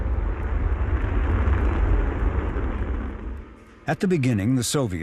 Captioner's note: rocket ship blasting